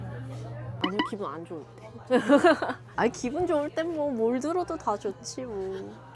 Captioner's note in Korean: 웃음